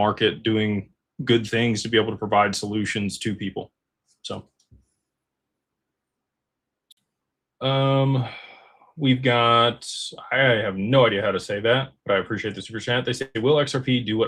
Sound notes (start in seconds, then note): 7.8 sighs